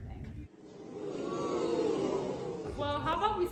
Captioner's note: crowd murmurs